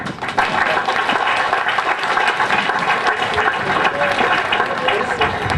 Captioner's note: applause